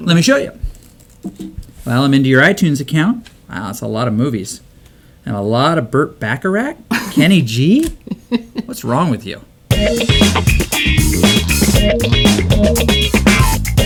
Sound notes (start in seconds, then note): 8.0 laughs; 9.7 funky music